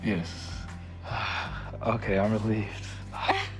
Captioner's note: sighs